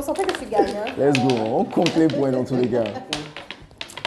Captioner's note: laughs